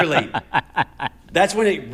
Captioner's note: laughter